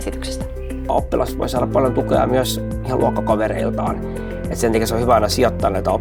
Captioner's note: man speaking